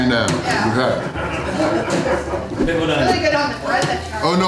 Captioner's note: crowd laughter